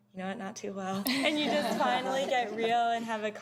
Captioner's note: laughter